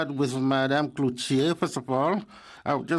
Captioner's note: speaking French